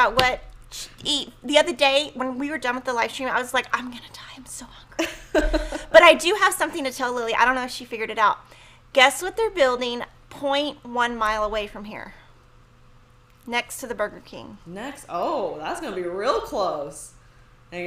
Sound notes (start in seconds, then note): 5.1 laughs